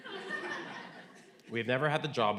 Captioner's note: audience laughing